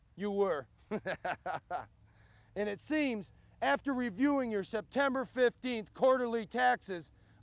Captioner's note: laugh